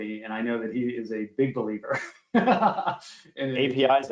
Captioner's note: laughs